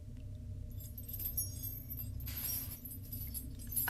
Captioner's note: chains rattling